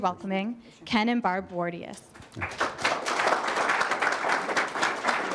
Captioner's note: applause